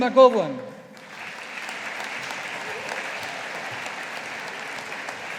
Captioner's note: audience applauding